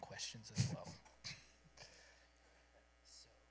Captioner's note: chuckles